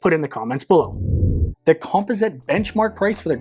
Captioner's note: screen whooshing